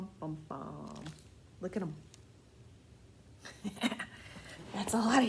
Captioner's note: laughs